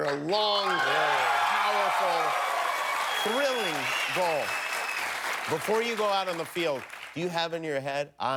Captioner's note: cheers and applause